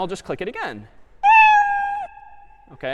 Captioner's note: meow